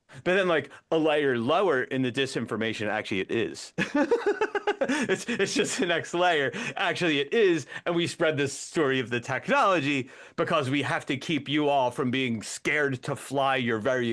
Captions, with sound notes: But then a layer lower in the disinformation, actually it is. (Laughing) It's just the next layer, actually it is. And we spread this story of the technology because we have to keep you all from being scared to fly your very